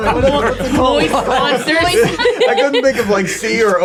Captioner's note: everyone laughing